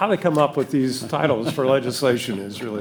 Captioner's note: panelists laughing